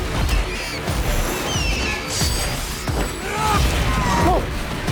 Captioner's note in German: Vogel kreischt